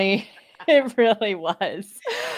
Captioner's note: laughing